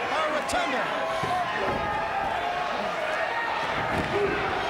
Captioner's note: fans cheering